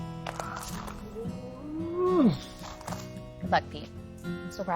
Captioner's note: Peter groans